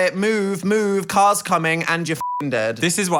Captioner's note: beep